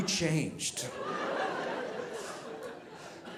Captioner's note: audience laughing